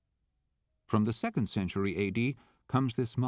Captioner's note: voiceover